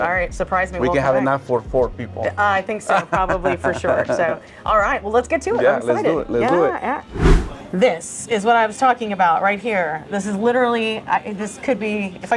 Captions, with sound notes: All right, surprise me. - We can have enough for four people. - I think so, probably for sure. Alright, well ,let's get to it. I'm excited. - Yeah, let's do it. - Yeah, yeah. (air whooshing) - This is what I was talking about right here. This is literally, this could be,